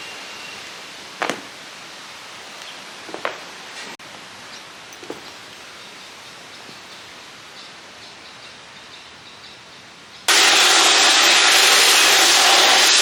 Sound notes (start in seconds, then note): 1.2 extension cord thumps on ground; 10.3 electric sander churns